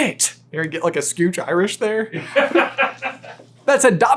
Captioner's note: laughing